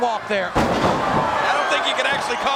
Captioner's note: body thuds